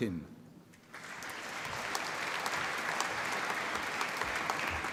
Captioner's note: applause